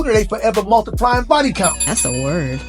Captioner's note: bell dings